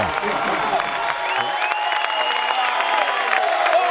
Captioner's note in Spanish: aplausos